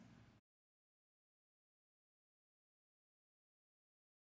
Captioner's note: silence